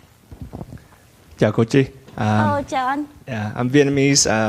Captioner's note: speaking in foreign language